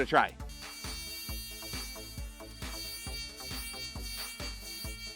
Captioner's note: device buzzing wildly